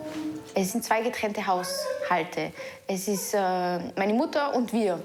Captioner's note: speaking foreign language